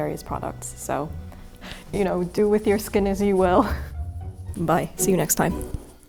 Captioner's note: laughing